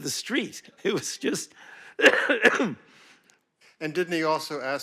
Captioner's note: coughs